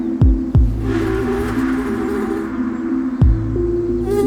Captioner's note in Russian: жужжание мухи